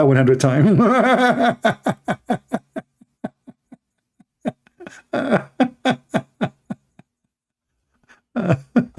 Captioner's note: Ketawa